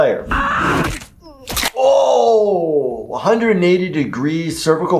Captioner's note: neck breaking